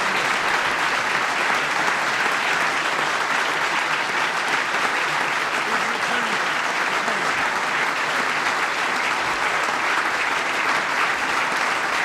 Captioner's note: applause